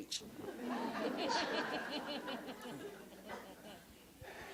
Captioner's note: audience laughs